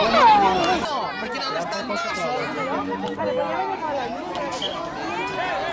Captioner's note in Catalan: Xiulet